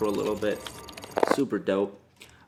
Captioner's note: audio distorts dramatically